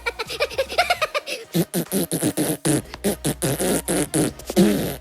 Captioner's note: minion laughing; minion buzzing tongue